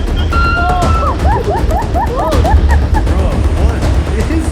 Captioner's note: intensely wailing